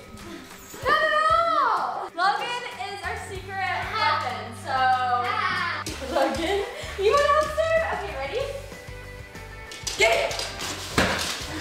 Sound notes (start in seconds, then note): 3.8 laughter